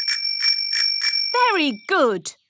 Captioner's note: rings bell